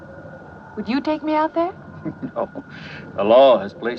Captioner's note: chuckles